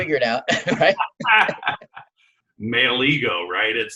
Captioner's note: laughs